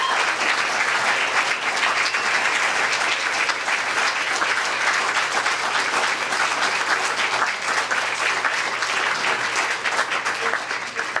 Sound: applause

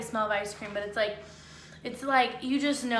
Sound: sniffs

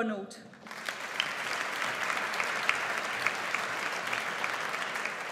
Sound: audience applauds

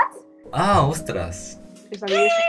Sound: Spanish; spanish slang; Spanish

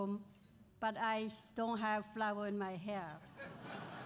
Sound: laughter

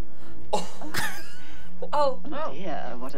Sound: laughs

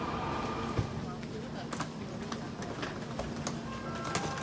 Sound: people bustling

